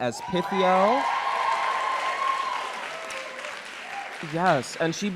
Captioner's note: crowd cheering